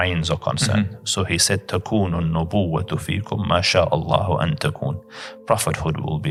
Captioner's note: Arabic